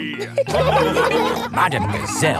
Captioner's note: laughing